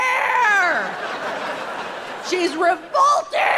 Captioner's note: audience laughing